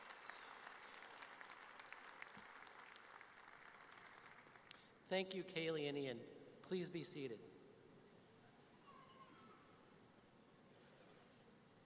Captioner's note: applause